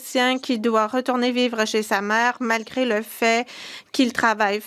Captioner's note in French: voix de l'interprète